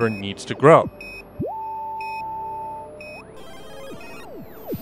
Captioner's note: electronic beeping